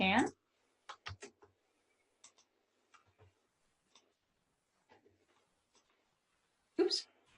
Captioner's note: typing